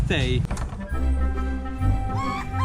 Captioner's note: door opening; playful music